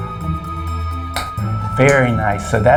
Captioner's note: clicks tongue